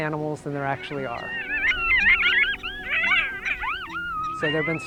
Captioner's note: coyotes yap and howl